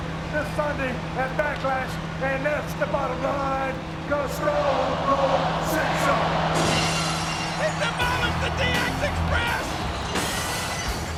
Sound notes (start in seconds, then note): 5.9 rock music; 6.7 glass shattering